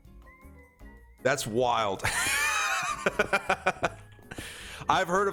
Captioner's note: laughs